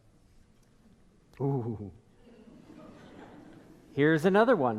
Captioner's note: audience laughing